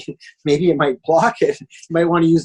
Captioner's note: chuckles